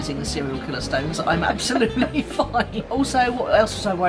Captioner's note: laughs